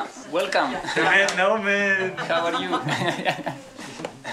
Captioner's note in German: Lachen